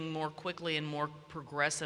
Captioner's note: none